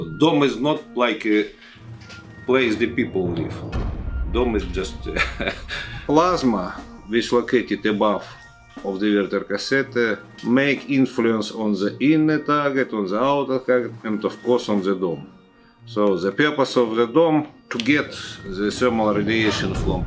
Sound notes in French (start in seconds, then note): 5.1 Rires